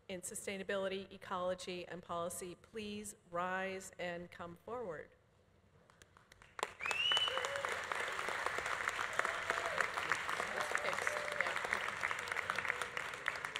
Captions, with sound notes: in Sustainability, Ecology and Policy please rise and come forward. (audience applauding) (audience cheering) It's fixed, yeah.